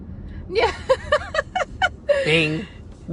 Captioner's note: laughs